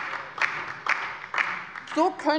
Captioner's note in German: Beifall bei der LINKEN